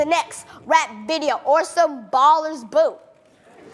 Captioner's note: laughing